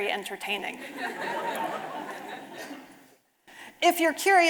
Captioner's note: audience laughing